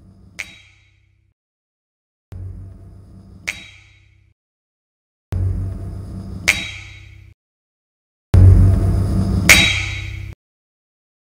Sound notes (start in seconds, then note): 0.3 slightly metalic snap; 6.4 larger snap; 8.4 ambience is getting a little static-y; 9.5 the noise you get when you hit a solid iron/steel rod on a similar rod/surface